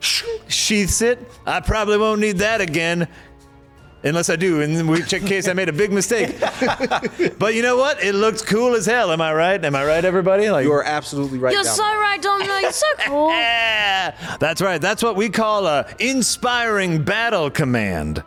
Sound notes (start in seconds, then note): 6.1 laughter